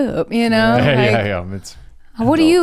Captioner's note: laughs